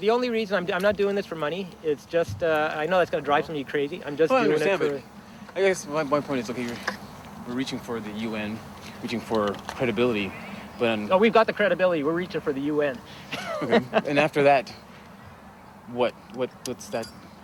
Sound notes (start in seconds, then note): 13.1 laughs